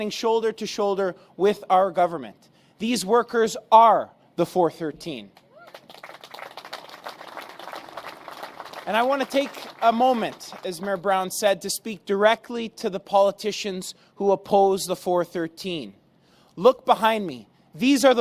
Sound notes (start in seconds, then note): 5.5 applause